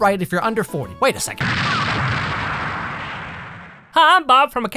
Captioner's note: explosion